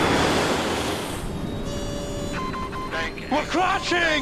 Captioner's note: beeping